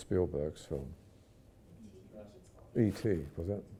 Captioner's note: audience murmurs